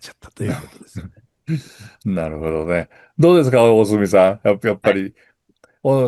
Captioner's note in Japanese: 笑い